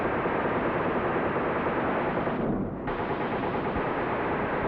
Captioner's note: guns firing